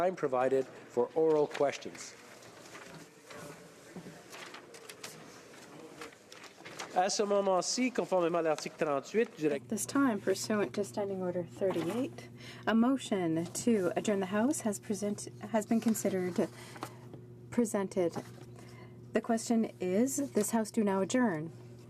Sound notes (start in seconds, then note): 12.3 speaking French